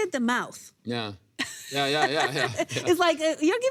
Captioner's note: laughs